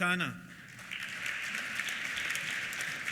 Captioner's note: applause